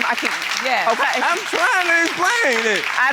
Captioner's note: audience applauding